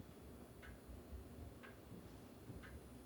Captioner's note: none